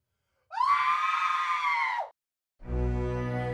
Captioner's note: screams